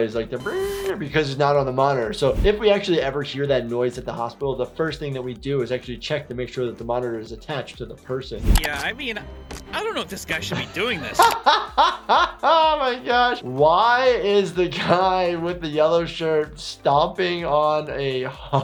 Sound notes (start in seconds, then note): 9.8 laughs